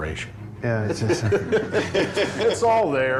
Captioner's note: all laughing